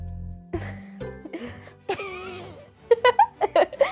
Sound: giggles

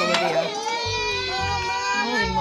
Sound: crying

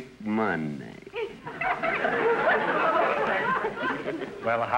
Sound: audience laughter

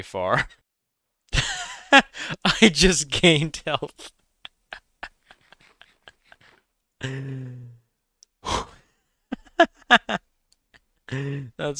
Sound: laughs; laughs

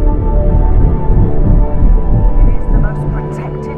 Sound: helicopter blades; voiceover

